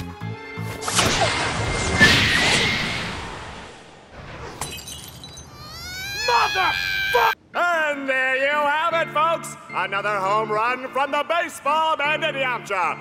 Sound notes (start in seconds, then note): 4.6 window breaks; 5.6 crying